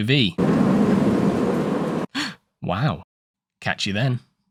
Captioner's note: gasp